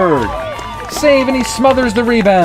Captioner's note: crowd cheers